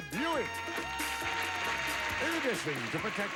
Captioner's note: audience applauding